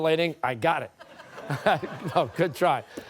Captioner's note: laughter